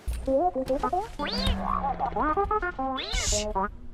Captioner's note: BB-8 beeps and noises